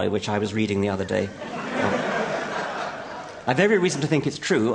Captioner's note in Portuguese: Risos